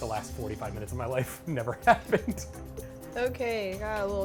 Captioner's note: laughs